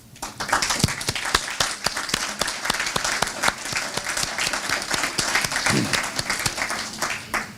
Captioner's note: applause